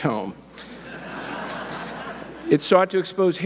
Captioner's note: audience laughing